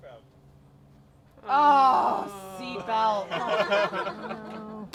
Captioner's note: laughter